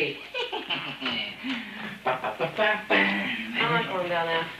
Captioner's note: laughs